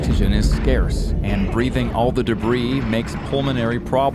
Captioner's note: suspenseful music; coughs